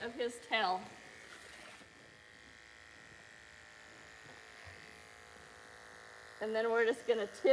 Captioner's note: clippers buzzing